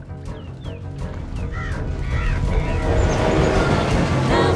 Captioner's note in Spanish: cuervos graznando; trío femenino cantando